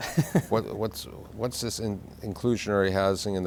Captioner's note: laughs